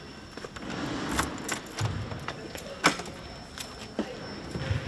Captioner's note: keys jingle door unlocking